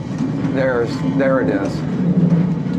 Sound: wincing sound

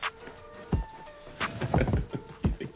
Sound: laugh

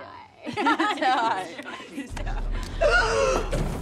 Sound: laughter

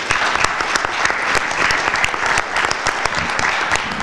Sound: applause

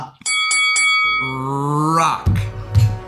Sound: dinging

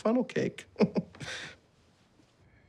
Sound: chuckles

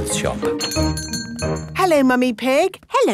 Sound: doorbell chiming

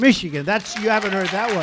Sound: applause

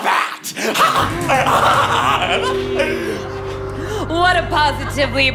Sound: laughing

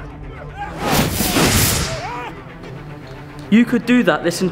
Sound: magical zapping

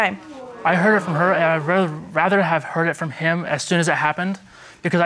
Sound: stammering

